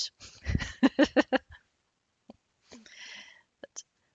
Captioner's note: laughs